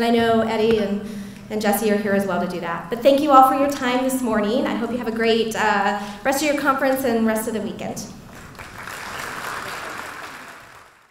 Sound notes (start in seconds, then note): 8.3 applause